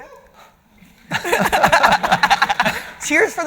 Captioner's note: audience laughting